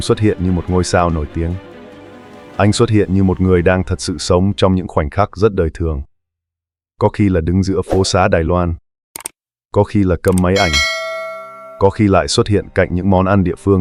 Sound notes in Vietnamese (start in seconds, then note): 10.5 chuông